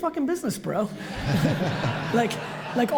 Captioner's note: audience laughs